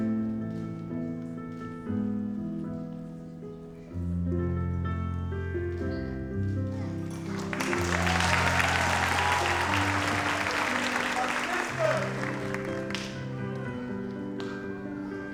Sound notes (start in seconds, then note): 6.7 audience applauds; 12.6 gentle music